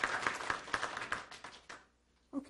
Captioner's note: applause